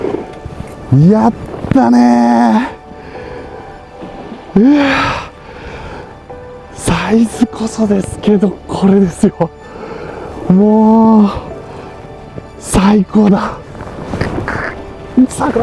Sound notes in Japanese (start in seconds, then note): 3.8 ため息; 5.4 息をのむ音